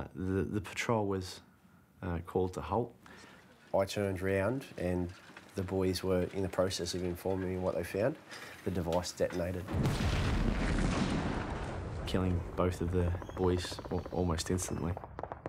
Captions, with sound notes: The patrol was called to a halt. I turned round and the boys were in the process of informing me what they found and the device detonated. [sound of explosion] Killing both of the boys almost instantly.